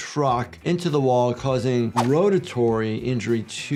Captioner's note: graphics whooshing